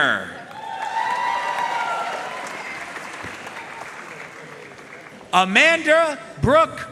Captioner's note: audience cheering and applauding